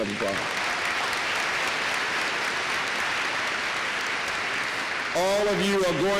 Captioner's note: applause